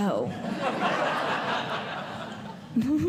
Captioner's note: audience Laughing